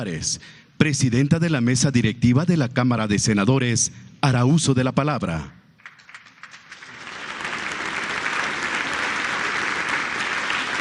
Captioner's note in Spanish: aplausos